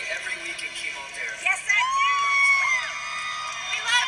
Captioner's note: congregation screams